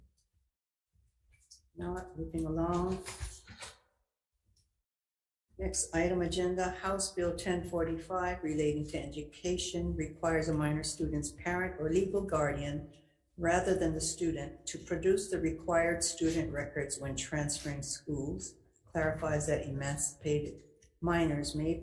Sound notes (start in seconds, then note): 0.1 pages rustling; 2.7 paper moving